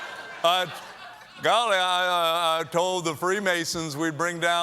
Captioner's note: laughter